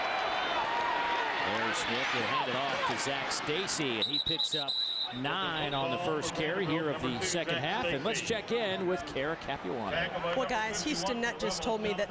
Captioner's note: crowd noise